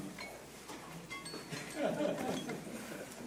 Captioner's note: phone ringing; audience laughing